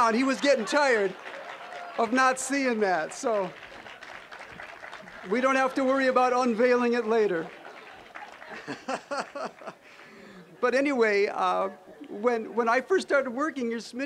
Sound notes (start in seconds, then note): 4.0 applause; 7.4 all laughing